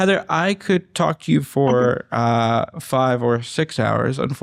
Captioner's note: laughter